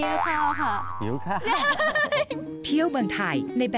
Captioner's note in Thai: เสียงหัวเราะ